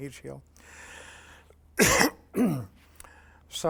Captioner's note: coughs